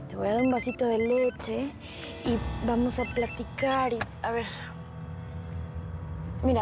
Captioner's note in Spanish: Suena el teléfono